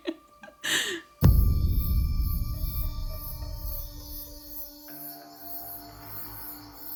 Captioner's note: Marsha laughs; ominous music; crickets chirping